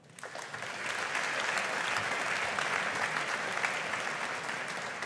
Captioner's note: audience applauding